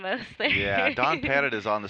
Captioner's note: laughing